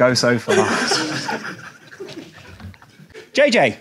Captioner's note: audience laughs